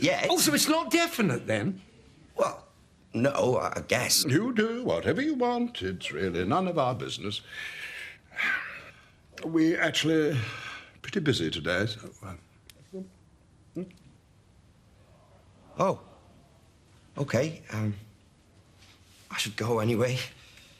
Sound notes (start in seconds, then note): 7.5 sighs